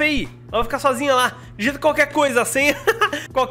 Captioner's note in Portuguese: risos